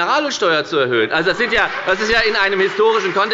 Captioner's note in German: Beifall bei der FDP